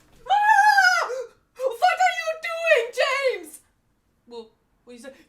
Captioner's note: German lady yelling